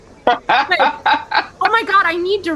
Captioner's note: laughter